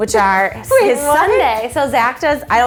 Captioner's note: laughs